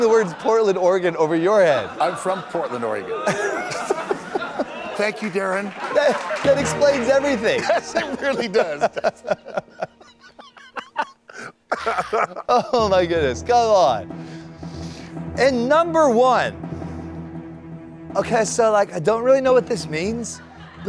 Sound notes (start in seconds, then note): 5.8 music / Laughter; 11.6 laughter